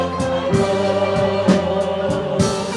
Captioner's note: none